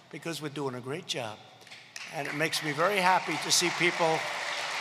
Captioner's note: applause